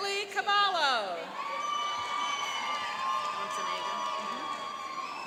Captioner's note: cheering and applauding